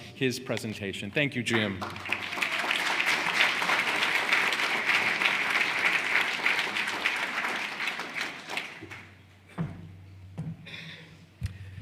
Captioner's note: applause